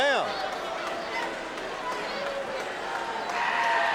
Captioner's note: audience cheering